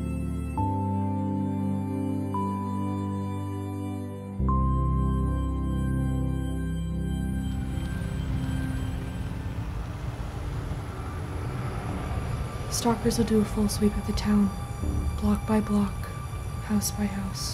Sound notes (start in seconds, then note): 7.3 vehicles approaching; 9.3 suspenseful music